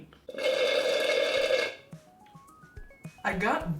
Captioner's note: slurping; playful electronic music